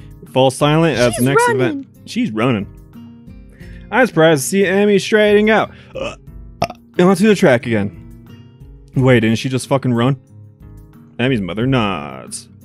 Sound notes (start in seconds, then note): 5.9 belches